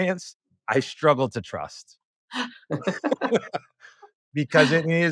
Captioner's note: laughing